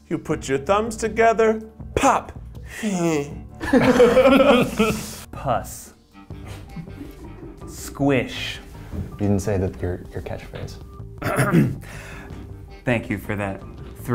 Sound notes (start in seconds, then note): 3.6 all laugh; 4.0 gags; 11.2 clears throat